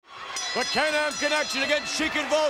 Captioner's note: bell rings